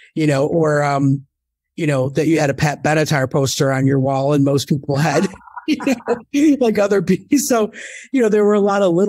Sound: laughs

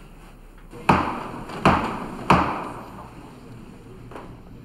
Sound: gavel thuds

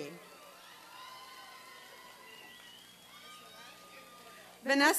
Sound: applause and cheering

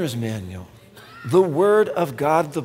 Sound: none

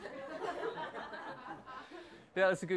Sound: laughs

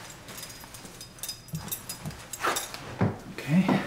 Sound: belt buckling and zipper

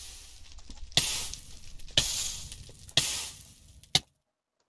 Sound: fire noises

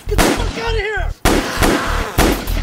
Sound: gun fires several times; gun fires; Damon growls

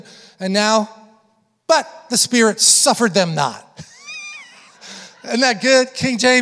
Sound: chuckles

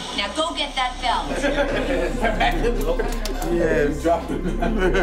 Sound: laughter

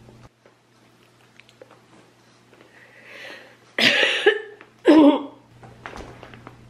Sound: mouths the word "Library" and clears her throat

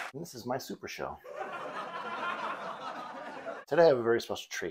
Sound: laughter

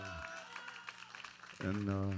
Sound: cheers and applause

